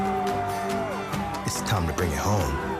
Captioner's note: pple cheering